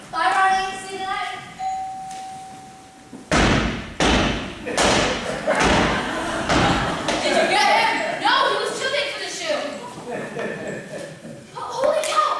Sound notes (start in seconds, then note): 1.5 elevator rings; 3.2 Happy bangs on the ceiling